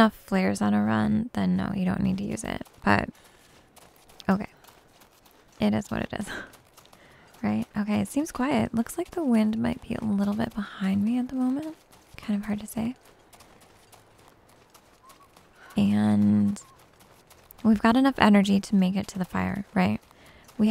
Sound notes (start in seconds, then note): none